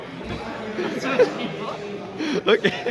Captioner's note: laugh